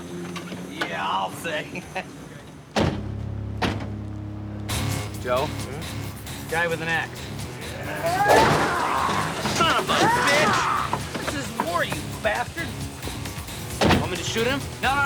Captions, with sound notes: Yeah, I'll say. Joe. Mm? Guy with an ax. (grunting) Son of a bitch. This is war, you bastard. Want me